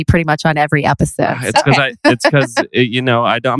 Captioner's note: laughs